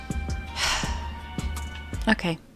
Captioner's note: heavy sigh